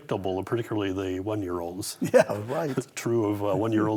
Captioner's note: laughs